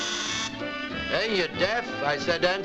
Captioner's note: bright music; doorbell buzzes